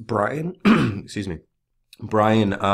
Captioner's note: clearing throat